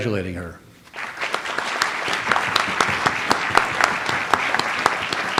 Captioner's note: audience applauds